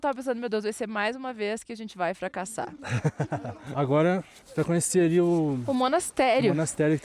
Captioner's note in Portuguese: risadas